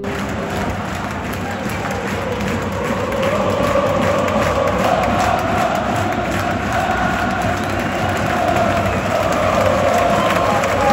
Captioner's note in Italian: Applauso